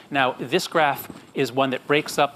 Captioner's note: none